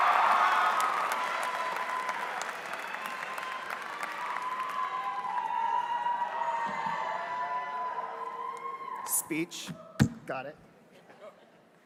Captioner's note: applause